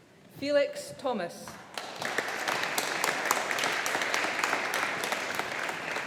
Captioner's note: audience applauding